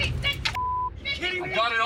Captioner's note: workers shouting